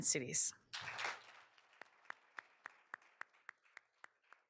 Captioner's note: all applauding